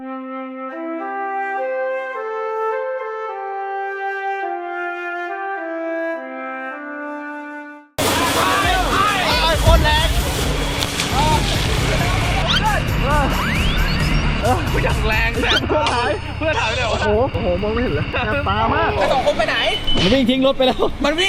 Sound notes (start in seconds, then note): 0.0 joyful music playing; 14.5 exhausted